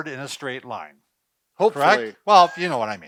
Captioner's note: chuckles